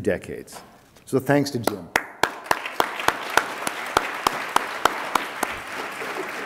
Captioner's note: attendees applaud